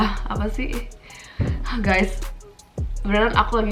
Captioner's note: sigh